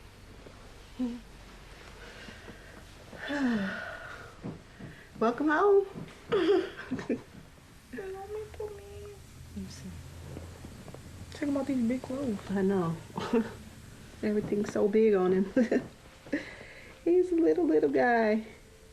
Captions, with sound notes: [SIGHS] Welcome home. [CHUCKLING] Let me see him. Check him out in these big clothes. I know. Everything’s so big on him. [LAUGHS] He’s a little, little guy.